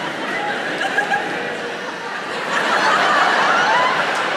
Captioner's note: audience laughs